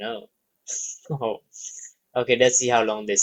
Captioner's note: laughs